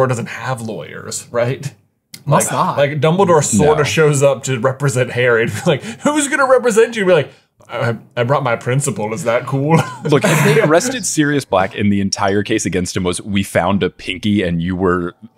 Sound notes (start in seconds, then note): 9.8 chuckling